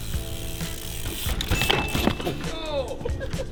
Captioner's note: bicycle crashing; rider shouting